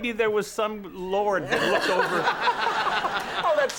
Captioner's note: audience laughs